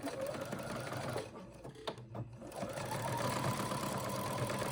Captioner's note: sewing machine whirs